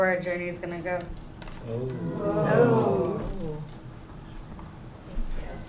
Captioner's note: non-english